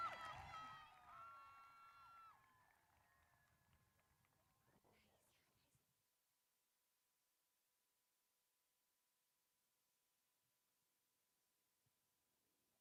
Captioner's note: applause